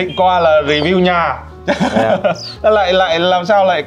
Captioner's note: laughing